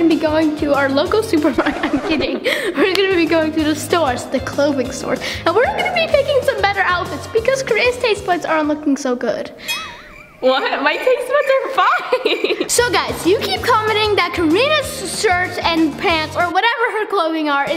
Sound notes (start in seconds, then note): 1.4 laughing; 9.6 laughing